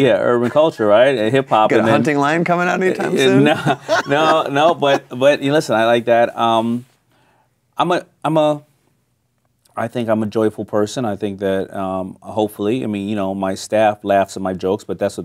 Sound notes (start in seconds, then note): 4.6 laughing